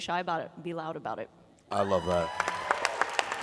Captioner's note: applause